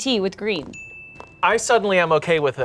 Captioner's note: graphic dings